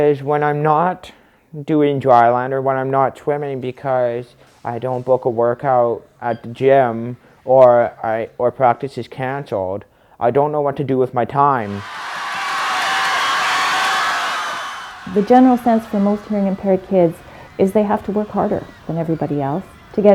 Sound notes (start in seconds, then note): 11.6 cheering